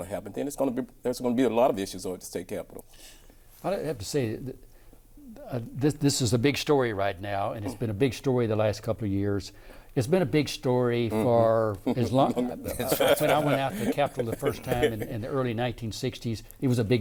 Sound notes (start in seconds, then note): 11.8 laughing